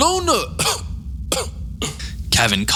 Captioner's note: coughs